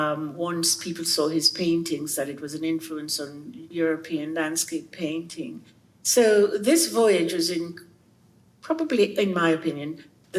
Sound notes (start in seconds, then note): none